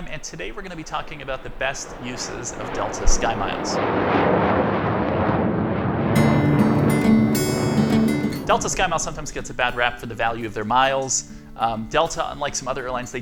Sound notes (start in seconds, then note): 4.0 airline engine roars; 6.2 gentle music